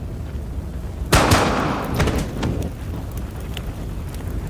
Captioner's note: gun firing